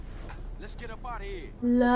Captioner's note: game audio